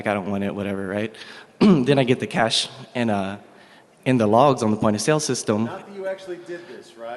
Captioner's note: off mic